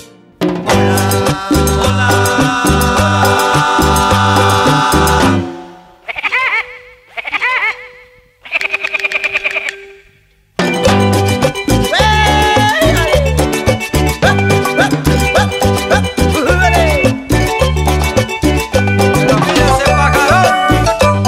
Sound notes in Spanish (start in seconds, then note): 6.0 Sonido pajaro loco; 10.5 Mùsica alegre; 14.2 Música alegre